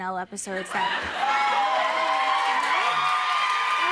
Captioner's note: audience cheers